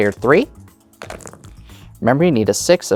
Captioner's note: dice rattling; dice rolling